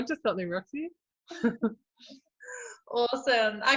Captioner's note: both chuckle